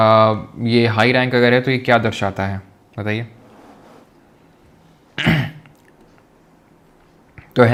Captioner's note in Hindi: गला साफ़ करने की आवाज़